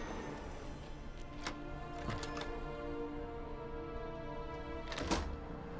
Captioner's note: door opens; door closes